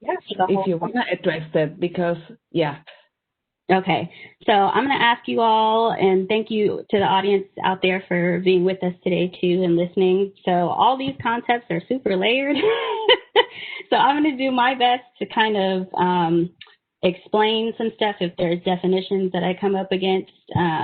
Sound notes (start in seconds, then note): 13.2 laughing